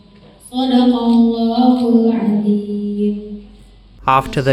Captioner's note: reciting the verse of the Qur’an